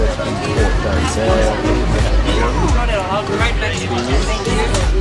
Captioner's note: background chatting